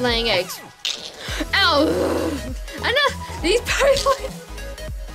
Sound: grunts in frustration

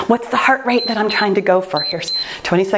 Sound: timer beeps

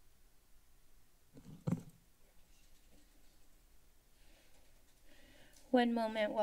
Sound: silence

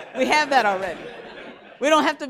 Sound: laughter

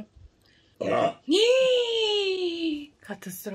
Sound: burps

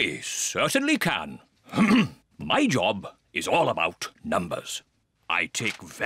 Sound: clears throat

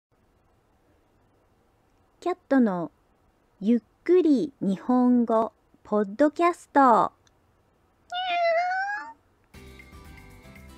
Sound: meow

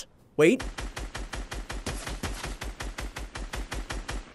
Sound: gun shots

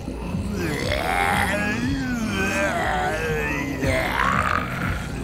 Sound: growling

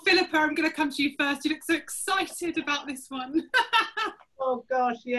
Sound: laughter

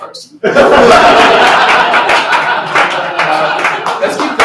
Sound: laughter

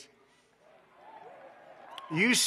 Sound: applause

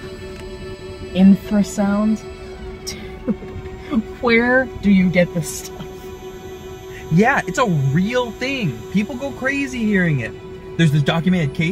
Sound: deep humming

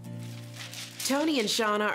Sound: papers rustling

